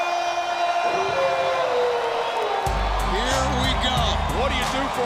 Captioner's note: wolf howling; upbeat music